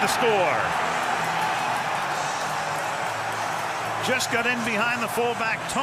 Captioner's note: cheering